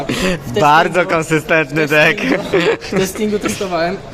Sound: laughing

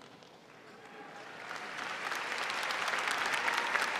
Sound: applause

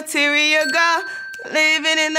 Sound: bell dings

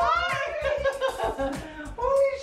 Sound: laughing

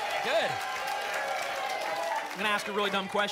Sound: applause and cheering cont

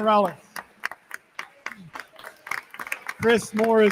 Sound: attendees continue applauding

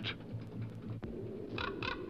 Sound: wings beating; crow crackles

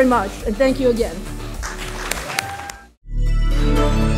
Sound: applause

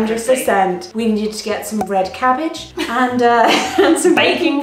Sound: laughing

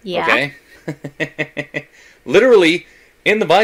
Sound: laughs

